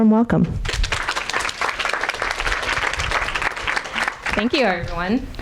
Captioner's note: audience applauding